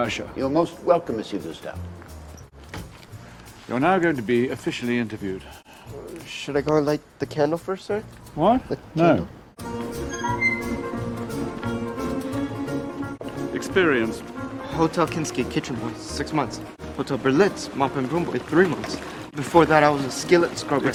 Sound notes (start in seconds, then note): 9.7 bustling music; 9.9 door squeaks